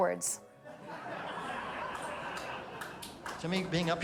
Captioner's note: crowd laughing